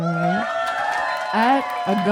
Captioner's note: audience cheering